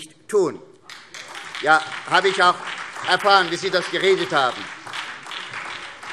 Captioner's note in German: Beifall SPD - Zuruf BÜNDNIS 90/DIE GRÜNEN: Haben wir!